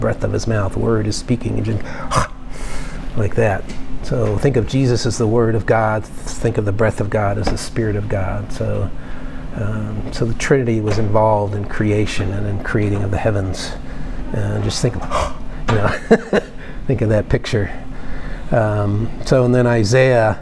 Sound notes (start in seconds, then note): 1.8 sound of sudden bust of breath